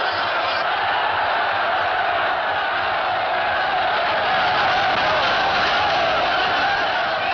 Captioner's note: commotion